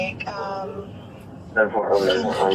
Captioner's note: radio chatter